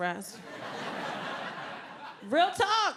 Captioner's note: audience laughing